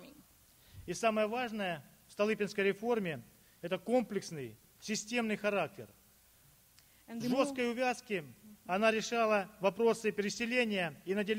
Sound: speaking Russian

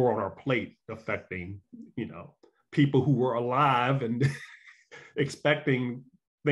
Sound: laughs

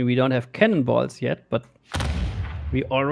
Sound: booming sound

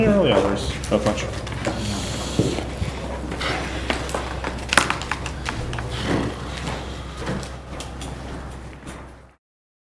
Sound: some weird gm noises

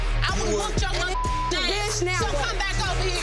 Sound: beep

